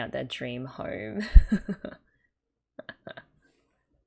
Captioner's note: laughs